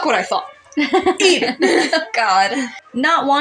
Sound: chuckle; laugh

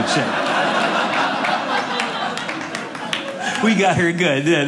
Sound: audience laughing

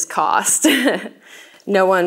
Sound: laughs

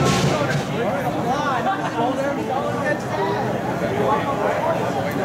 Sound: general crowd sounds, no dialogue

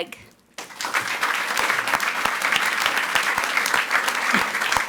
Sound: audience applauds

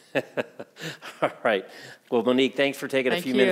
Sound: chuckling

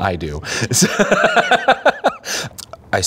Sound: laughing

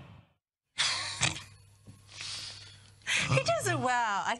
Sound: both laugh

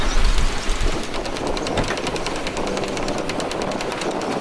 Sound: rain tapping

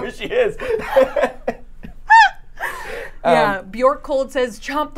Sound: both laughing

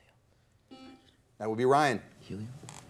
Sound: buzzer beeps once

